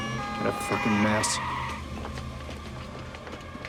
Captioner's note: brakes Screeching; siren Wailing